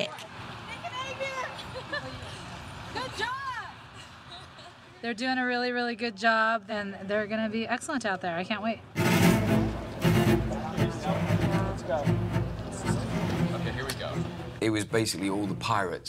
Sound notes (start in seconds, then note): 1.6 girls chuckling; 10.2 indistinct chattering